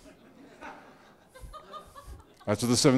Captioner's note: audience laughing